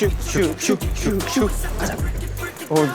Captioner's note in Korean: 슈슉